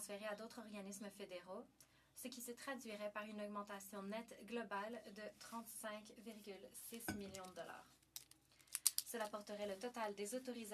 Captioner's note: speaking French